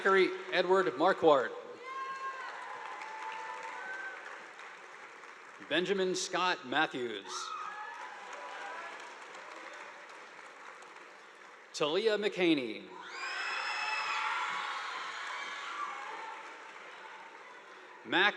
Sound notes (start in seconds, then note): 2.0 audience applauding; 7.4 audience applauding; 13.0 students cheering; 13.1 audience applauding